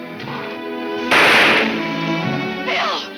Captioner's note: shot firing